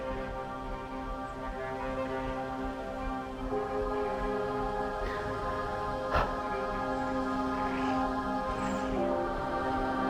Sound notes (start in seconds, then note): 0.1 soft dramatic music continues; 4.8 Arawn breathes deeply